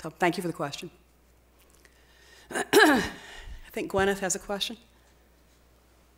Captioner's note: coughs